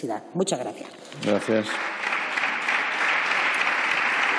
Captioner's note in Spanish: Aplausos